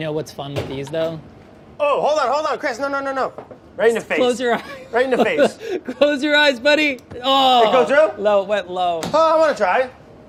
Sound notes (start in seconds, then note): 4.5 chuckles